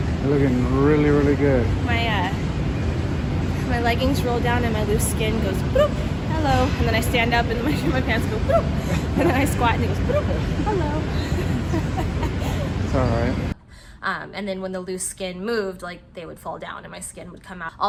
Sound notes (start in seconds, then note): 8.4 cameraman laughing; 11.5 laughing